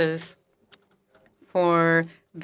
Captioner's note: speaking French